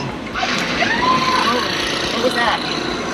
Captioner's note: woman screaming